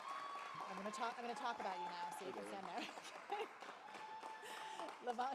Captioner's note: applause